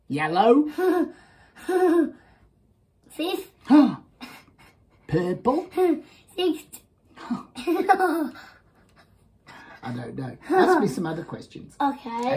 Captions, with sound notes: Yellow. (laughs) Fifth? (gasps) Purple. Sixth? (scoffs) I don't know. Ask me some other questions. Okay?